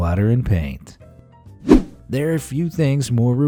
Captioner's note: whoosh